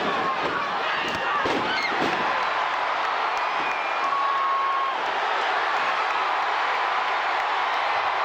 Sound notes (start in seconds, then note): 1.6 crowd cheering